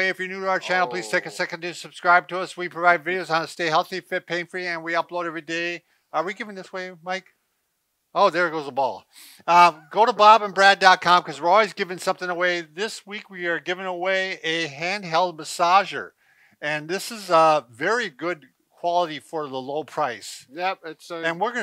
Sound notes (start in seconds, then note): 9.4 laughs